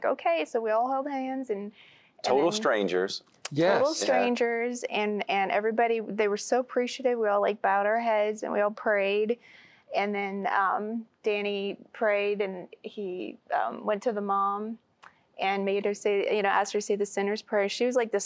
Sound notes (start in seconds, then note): none